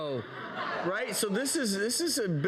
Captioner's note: audience laughs